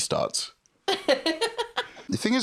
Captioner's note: laughs